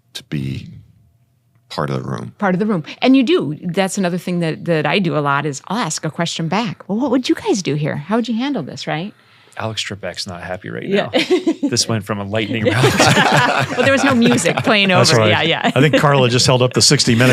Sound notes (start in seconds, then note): 12.4 panel laughing